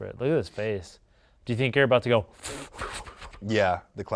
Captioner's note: breathes lips in